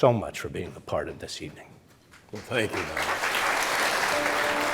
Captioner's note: audience applause